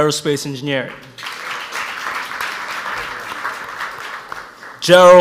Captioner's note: audience applauds